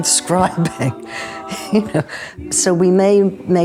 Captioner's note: laughing